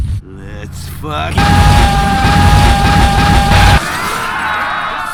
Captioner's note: screaming